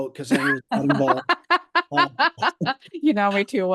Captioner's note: laughs